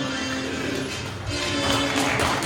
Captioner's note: audience claps